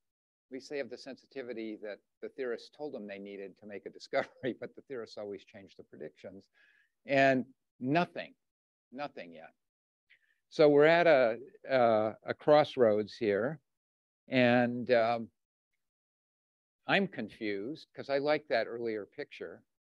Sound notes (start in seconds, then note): 4.3 chuckles